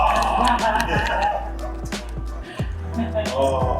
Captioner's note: loud cheering